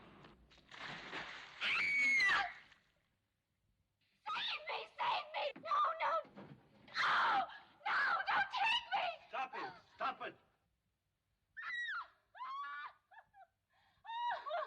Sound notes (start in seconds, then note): 0.4 body Falls In Water; 1.6 screams; 7.3 screams; 12.1 woman Screams, Laughing